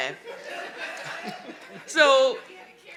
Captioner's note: audience laughing